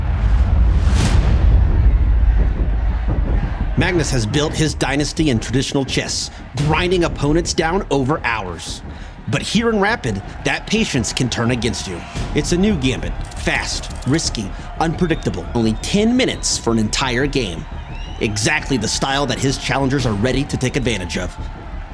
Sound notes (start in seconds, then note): 0.0 tense music playing; 1.4 crowd cheering, chanting